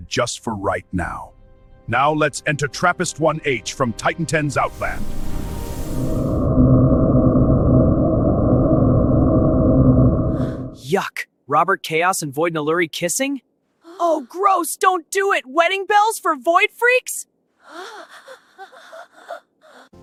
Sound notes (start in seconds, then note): 6.2 traveling White Noise